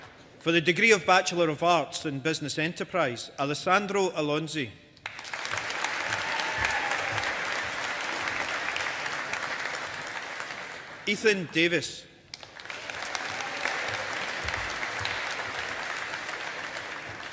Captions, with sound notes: For the degree of Bachelor of Arts in Business Enterprise, Alessandro Alonzi. (AUDIENCE APPLAUDING) Ethan Davis. (AUDIENCE APPLAUDING)